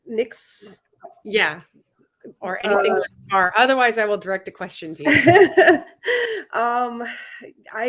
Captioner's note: laughter